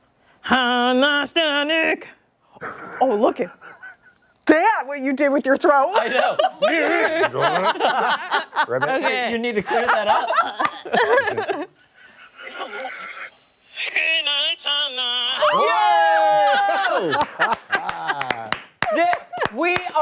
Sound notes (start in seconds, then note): 5.9 laughter